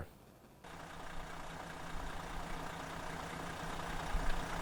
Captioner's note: engine revving